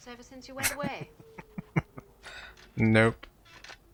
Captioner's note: laughing